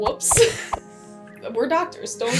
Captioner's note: smack